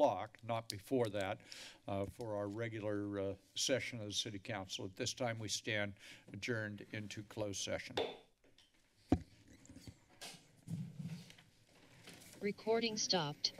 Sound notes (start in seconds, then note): 7.8 taps gavel; 8.6 silence